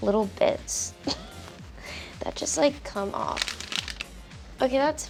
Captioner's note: chuckles